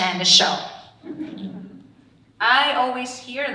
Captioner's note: audience laughing